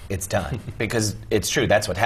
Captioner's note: laugh